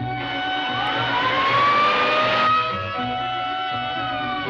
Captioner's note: police sirens wailing